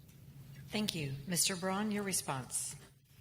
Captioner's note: voiceover